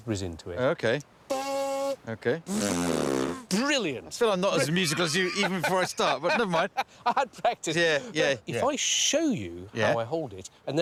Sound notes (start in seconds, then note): 2.4 blows raspberry